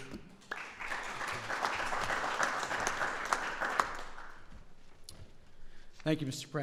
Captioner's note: applause